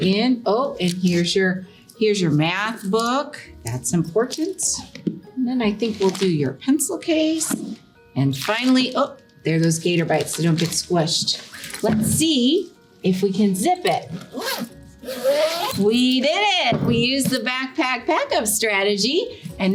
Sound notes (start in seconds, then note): 14.9 zipper zipping